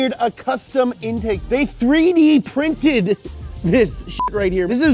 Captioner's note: beep